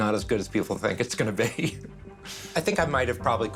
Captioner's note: laughs